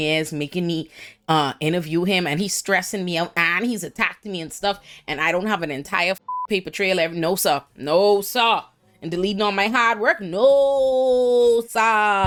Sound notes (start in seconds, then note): 6.2 beep